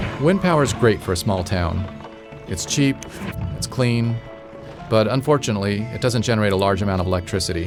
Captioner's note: Vietnamese